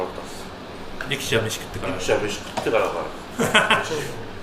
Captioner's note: laughs